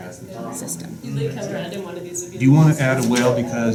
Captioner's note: classroom noise